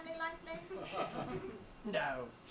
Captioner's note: audience laughs